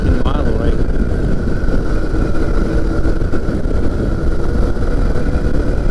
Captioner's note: microlight engine roaring